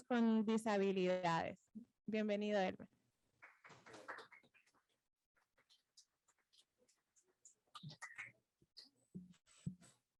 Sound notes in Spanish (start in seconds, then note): 3.4 aplausos